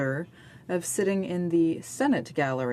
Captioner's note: speaking French